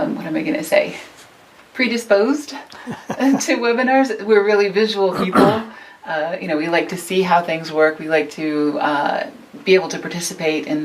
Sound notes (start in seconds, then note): 2.7 chuckles